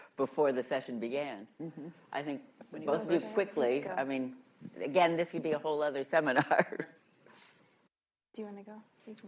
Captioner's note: laughs